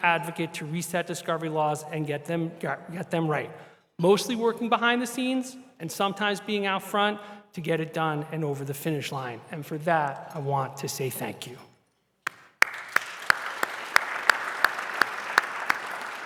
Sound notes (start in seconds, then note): 12.2 applause